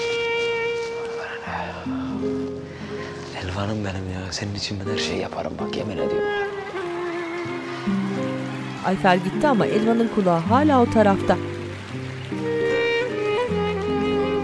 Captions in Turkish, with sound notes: Elvan'ım benim ya. Senin için her şeyi yaparım bak yemin ediyorum ya! (Fonda alkış sesleri) (Müzik - Gitar ve klarnet)